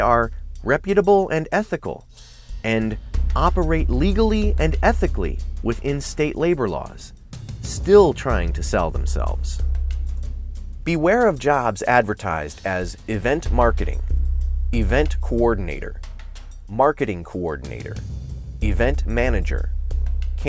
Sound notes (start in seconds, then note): none